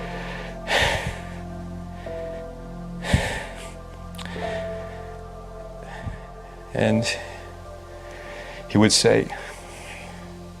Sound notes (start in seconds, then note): 0.0 soft peaceful music; 0.1 sighing